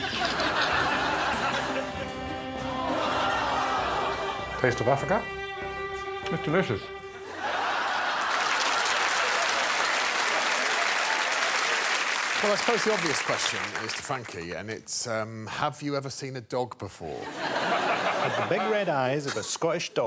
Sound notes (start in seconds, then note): 8.8 audience laughing and clapping